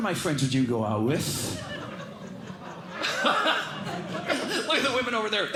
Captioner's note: laughter